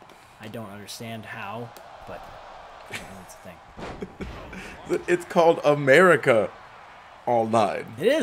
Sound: laugh

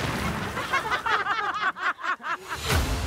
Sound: laughs

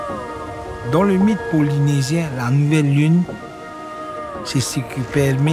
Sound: speaking foreign language

